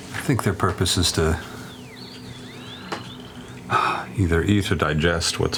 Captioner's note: sighs